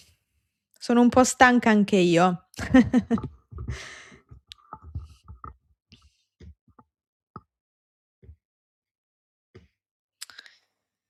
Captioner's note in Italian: risate